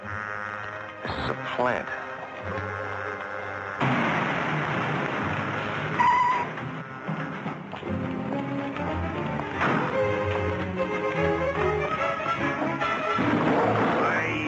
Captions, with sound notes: This is a plant. (tires squealing) (tense music) (chair thudding)